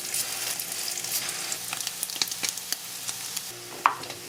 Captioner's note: sizzle sizzle